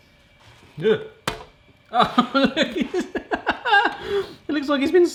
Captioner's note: laughs